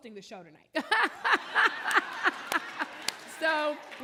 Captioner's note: audience laughing